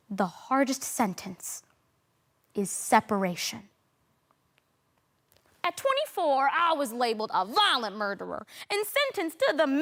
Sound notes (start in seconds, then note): 3.8 rustling